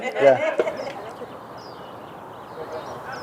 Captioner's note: birds chirping